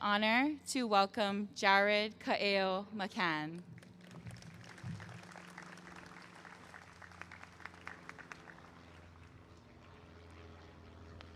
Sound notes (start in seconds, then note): 3.6 applause